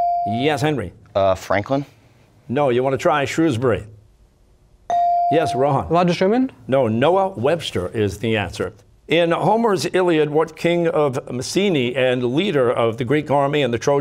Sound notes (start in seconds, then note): none